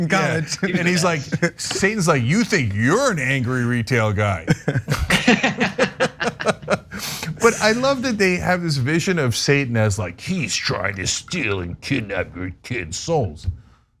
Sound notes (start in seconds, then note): 4.4 laugh